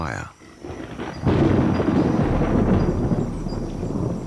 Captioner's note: thunder rumbles